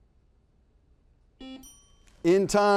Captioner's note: buzzer buzzes